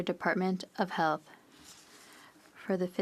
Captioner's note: speaking French